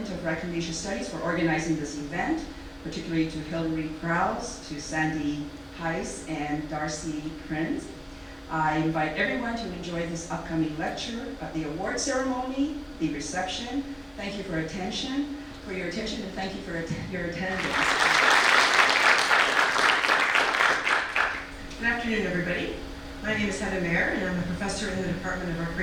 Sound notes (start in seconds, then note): 17.5 audience applause